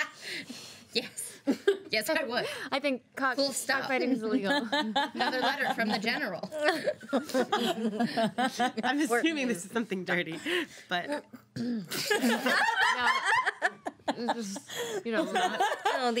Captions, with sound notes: (girls laughing) - Yes. Yes I would. - I think cock-- - Full stop right into illegal. (girls laughing) - Another letter from the general. (girls laughing) - I'm assuming it's something dirty. But-- (girls squealing and laughing)